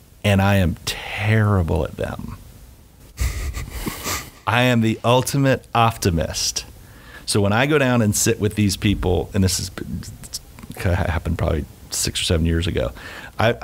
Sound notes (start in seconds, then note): 3.2 laughing